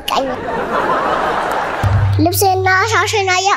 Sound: laughter

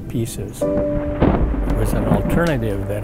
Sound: thunder roaring

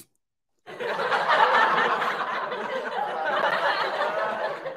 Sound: people laughing

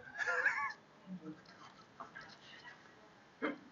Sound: laughs

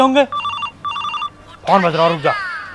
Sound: phone ringing

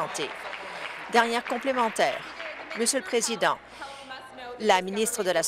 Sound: applause

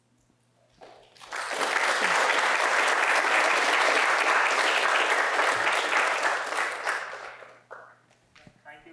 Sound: applause

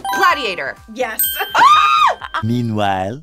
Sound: buzzer rings; screams

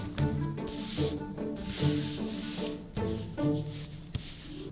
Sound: classical music; fabric rustling

